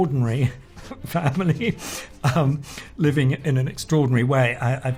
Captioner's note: laughs